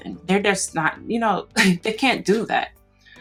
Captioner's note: laughs